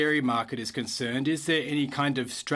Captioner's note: speaking French